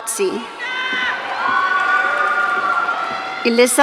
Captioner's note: audience cheering